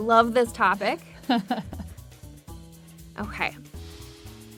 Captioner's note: laughs